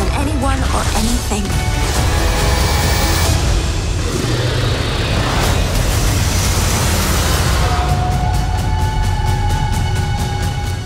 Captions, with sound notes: More than anyone, or anything. (intense music) (growling) (drum beating)